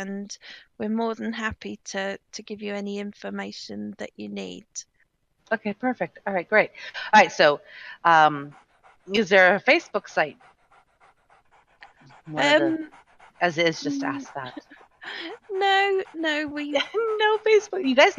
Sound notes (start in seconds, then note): 8.8 dog panting; 15.1 laughing